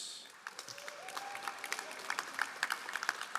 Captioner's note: all applauding